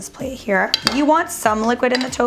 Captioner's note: clattering